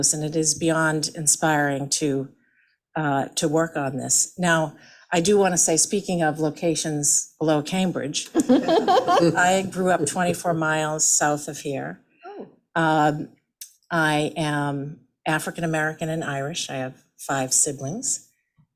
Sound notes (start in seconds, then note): 8.3 laughing